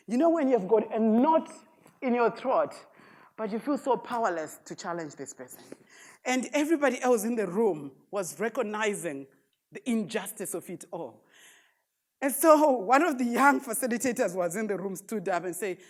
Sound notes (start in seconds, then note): none